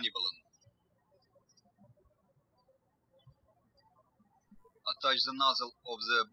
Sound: birds chirping

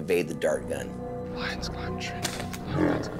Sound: whispering

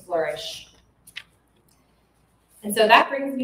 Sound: page rustling

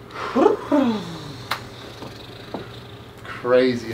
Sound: single clap

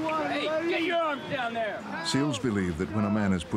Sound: yelling; voiceover

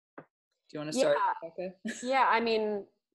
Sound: laughs

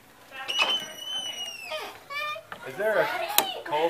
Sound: door creaks

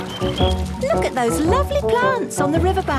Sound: chirping

